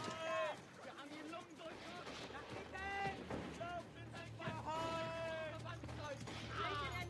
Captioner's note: german soldiers shouting and groaning